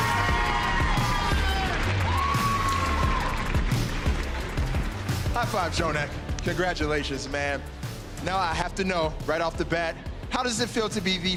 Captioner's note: applause